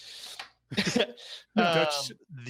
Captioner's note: laugh